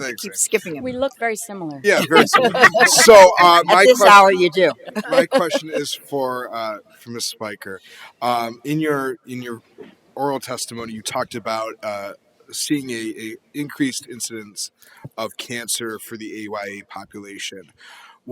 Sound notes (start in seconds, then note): 4.8 laughter